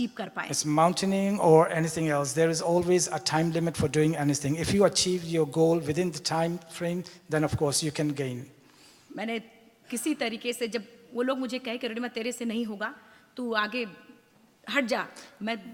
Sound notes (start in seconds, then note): 9.0 speaks foreign language